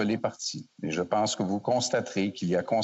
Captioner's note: speaking French